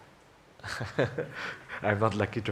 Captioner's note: laughs